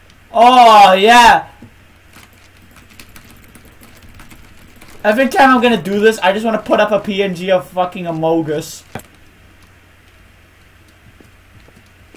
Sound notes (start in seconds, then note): 2.0 paper sounds